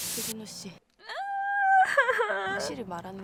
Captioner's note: crying